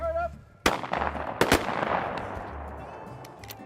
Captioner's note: gun shots